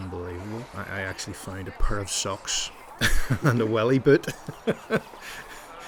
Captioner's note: laughs; laughing